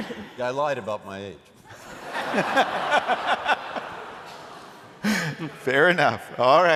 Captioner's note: laughter